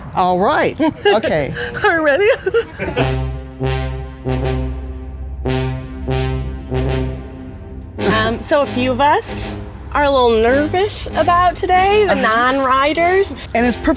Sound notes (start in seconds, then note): 0.7 laughs; 3.4 intense old west music